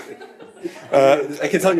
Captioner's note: audience laughing